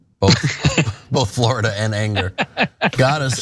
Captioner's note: laugh